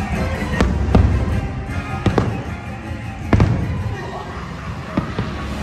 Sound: fireworks booming and cracking; spooky laughter

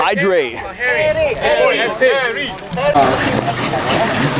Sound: crowd chattering

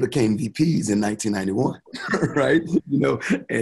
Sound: chuckling

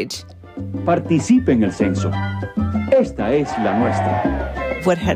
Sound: A crowd cheers

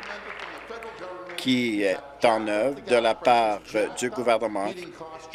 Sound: applause

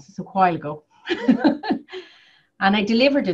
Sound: laughs

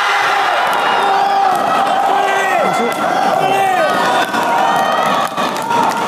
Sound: applause

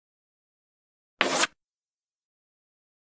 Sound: sound of chalk line

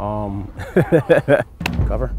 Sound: laughing

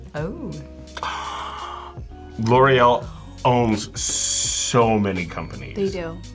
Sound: gasps

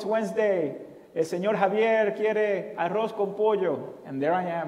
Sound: foreign language

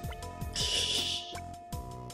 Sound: laughs softly

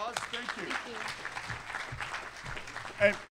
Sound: applause

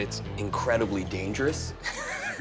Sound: laughing

